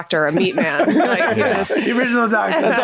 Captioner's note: all laughing